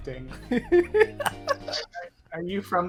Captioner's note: laughs